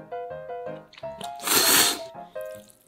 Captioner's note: the sound of eating noodles